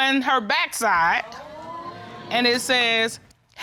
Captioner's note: audience exclaims